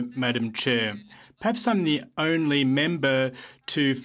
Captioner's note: speaking french